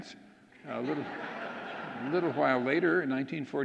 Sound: audience laughing

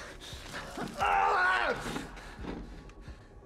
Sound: shouts

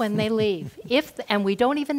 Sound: laugh

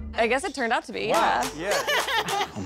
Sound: laughs

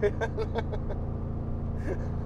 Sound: laugh

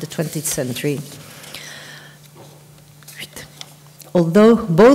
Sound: papers rustle

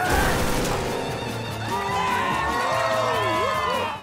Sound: cheering

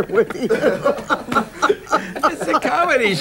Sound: people laughing

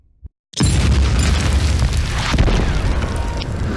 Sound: cannons booming

